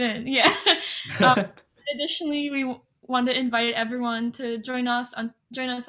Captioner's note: laughs